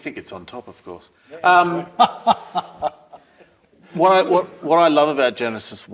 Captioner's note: laugh